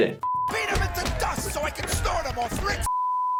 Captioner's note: beep